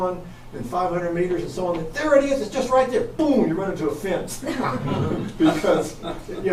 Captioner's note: everyone chuckles